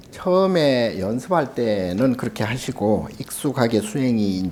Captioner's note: speaking Korean